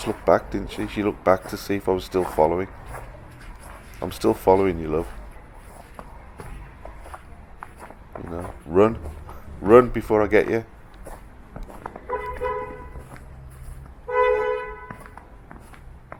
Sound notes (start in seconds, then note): 12.0 car horn; 14.0 car horn again